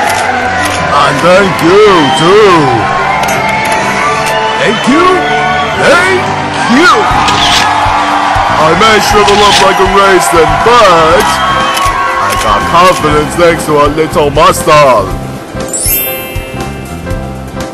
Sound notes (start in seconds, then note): 3.1 camera Clicks; 3.1 cheering